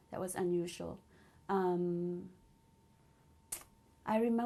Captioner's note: pauses for 3 seconds